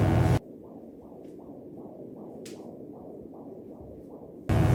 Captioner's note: electric buzzing; heart beating